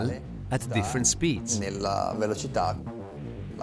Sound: voiceover speaking Italian

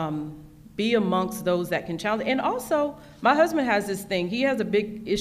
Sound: none

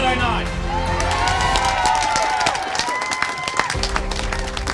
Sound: crowd cheering

